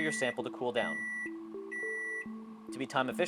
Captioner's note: beeping